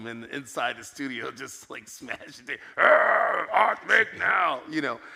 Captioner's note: growls